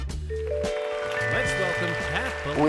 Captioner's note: audience applause